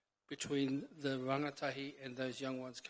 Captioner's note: speaks in foreign language